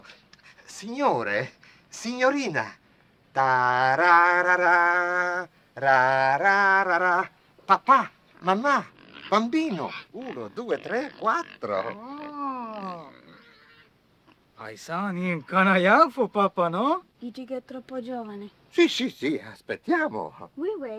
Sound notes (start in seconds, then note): 0.3 speaking foreign language; 3.5 hums " "; 9.6 speaking foreign language; 17.5 speaking foreign language